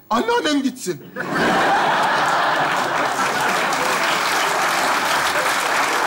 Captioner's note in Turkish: Alkış sesleri